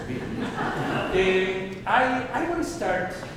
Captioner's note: audience laughing